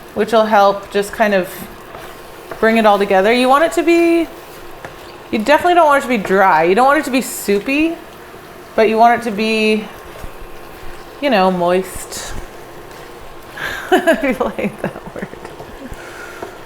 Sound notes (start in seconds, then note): 13.6 laughs